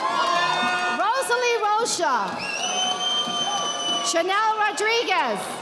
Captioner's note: audience applauding